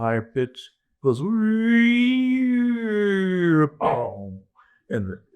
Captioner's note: imitating tape sounds